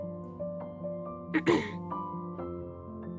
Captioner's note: clears throat